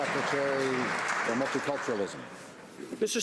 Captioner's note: some Applause